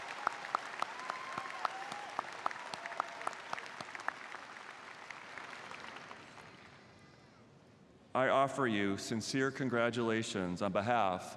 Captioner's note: applause